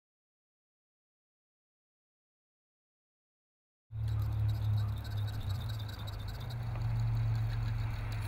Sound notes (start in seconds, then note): 4.0 sound of fish line reeling as balloon goes up